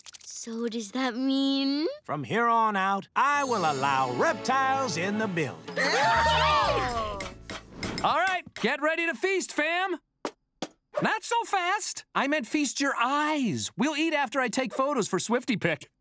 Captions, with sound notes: So, does that mean...? From here on out, I will allow reptiles in the building. [cheering] Alright, get ready to feast, fam. Not so fast. I meant feast your eyes. We'll eat after I take photos for SwiftyPic.